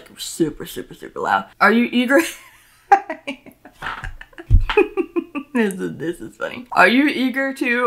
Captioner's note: laughs